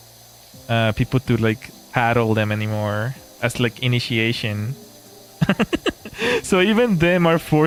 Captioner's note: laughter